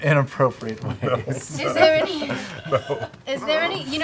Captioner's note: laughing